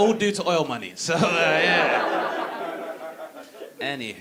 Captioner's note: audience laughing